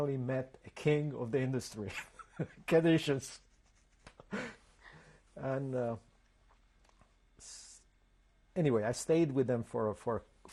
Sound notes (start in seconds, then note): 2.8 laughs; 4.6 pauses for 3 seconds